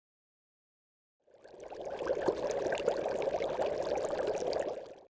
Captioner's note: bubbling